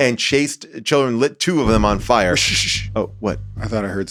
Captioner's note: hushes